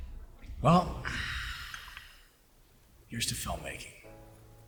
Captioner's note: sighs